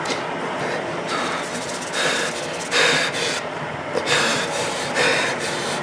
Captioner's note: heavy breathing